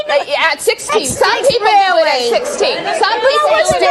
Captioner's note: overlapping chatter